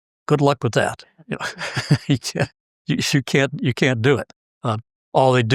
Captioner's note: laugh